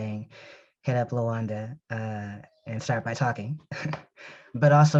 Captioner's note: chuckles